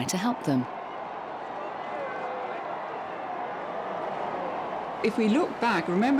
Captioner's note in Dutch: menigte juicht